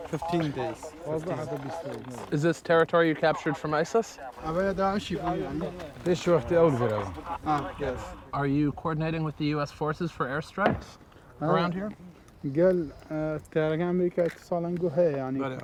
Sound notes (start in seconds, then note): 2.5 soldiers speaking foreign language; 9.8 speaking foreign language